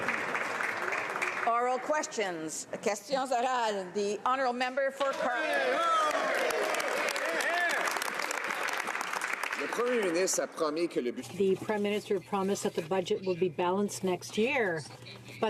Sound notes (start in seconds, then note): 3.4 some Applause; 5.7 speaking French; 9.4 some Applause